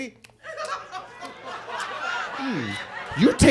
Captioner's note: audience laughs